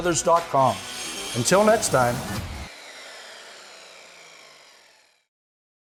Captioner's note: circular saw buzzing